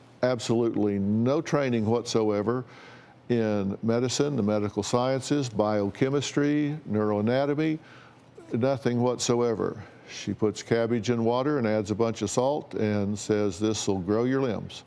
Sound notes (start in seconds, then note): none